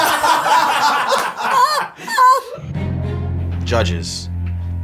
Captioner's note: all laugh